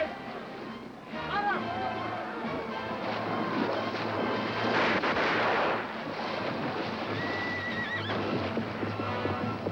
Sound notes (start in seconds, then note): 4.6 gunshots